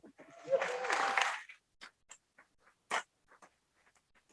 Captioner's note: audience applauds